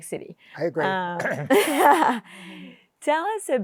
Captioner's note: laughs